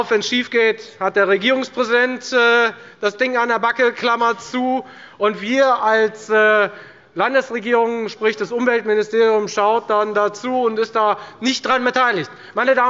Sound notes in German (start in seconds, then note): none